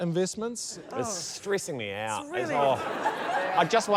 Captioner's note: laughter